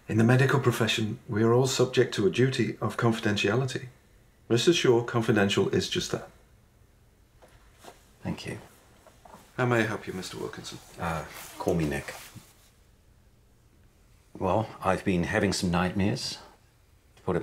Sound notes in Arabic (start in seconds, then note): none